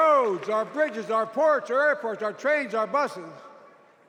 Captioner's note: cheers and applause